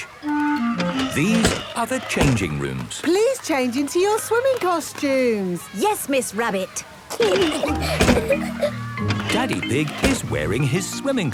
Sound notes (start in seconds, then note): 7.1 giggling